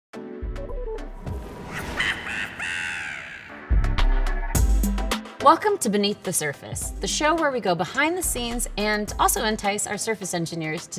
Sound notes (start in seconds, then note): 0.3 bright music; 0.3 sinister laughter